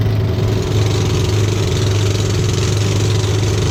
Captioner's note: boat engine sound